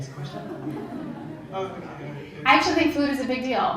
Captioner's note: laugh